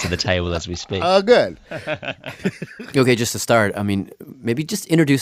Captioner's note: laughs